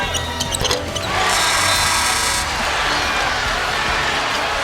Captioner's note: crowd cheering